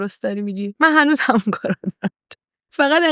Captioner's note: laughs